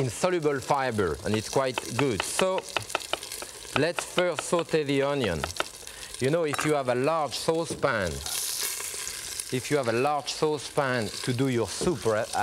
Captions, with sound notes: And it's quite good. (knife thudding) So let's first saute the onion. You know if you have a large saucepan. (onions sizzling) If you have a large sauce pan to do your soup at,